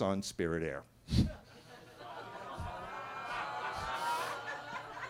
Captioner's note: attendees laughing